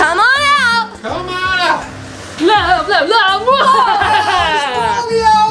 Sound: speaks gibberish

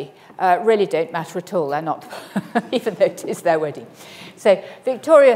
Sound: laughs

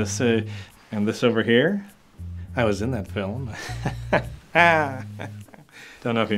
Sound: chuckling

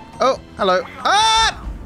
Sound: screams

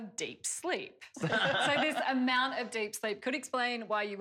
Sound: laughter

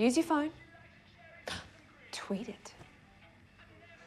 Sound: gasps

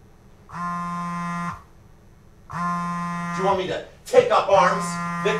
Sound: cell phone buzzing

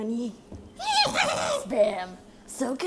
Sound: demonic baby laughter

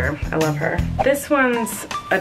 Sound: whooshing

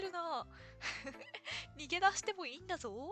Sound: laughs

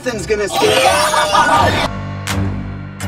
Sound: screaming

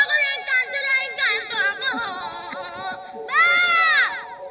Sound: wails

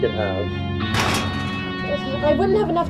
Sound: Gaige hits the garage door loudly

